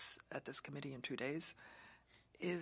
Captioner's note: speaking French